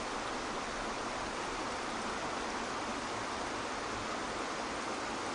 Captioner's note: water splashes